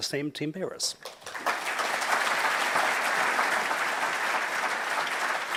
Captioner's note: audience applauds